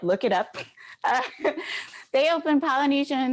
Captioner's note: chuckles